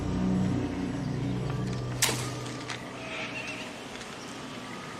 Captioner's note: wood snaps